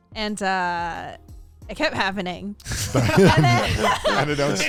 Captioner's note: men laughing